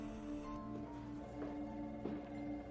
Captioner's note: phone ringing